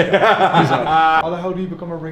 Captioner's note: laughs